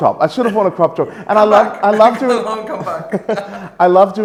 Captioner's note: laughs